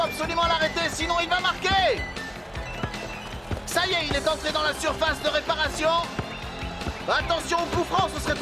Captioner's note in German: beifall